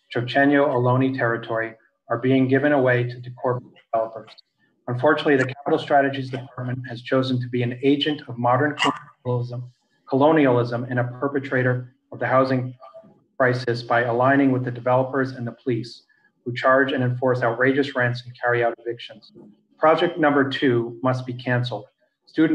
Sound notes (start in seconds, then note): 3.1 faintly speaking